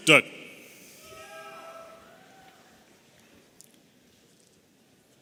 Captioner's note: audience cheering